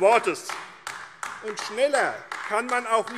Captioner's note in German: Beifall AfD